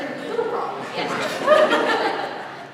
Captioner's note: laugh